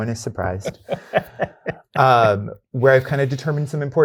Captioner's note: guy laughing